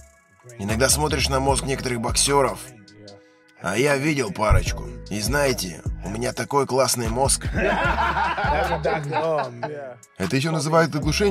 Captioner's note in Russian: смех